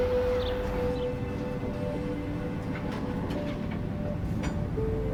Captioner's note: elevator whirring; serene music